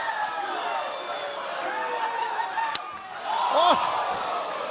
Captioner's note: cheers and applause